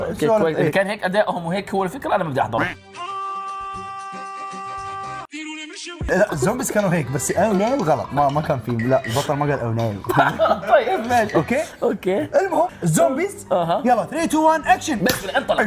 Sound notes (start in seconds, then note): 2.7 sad music plays; 10.0 laughs